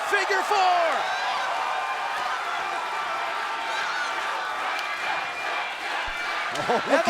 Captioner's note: crowd cheering